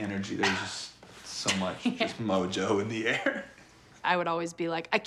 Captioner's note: Risos